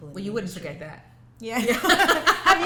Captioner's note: laughter